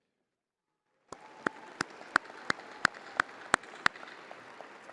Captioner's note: crowd applauding